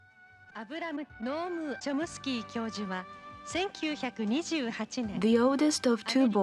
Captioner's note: speaking in foreign language